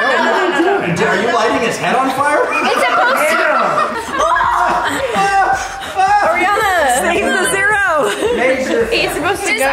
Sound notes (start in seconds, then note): 2.7 people laughing